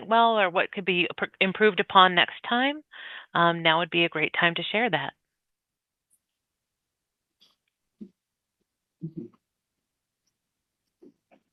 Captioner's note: pause